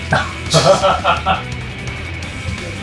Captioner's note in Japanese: 笑い声